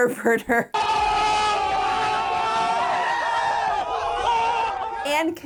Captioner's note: crowd screaming